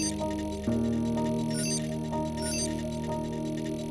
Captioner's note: signal pulses